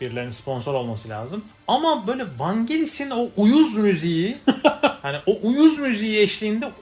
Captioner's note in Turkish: kahkaha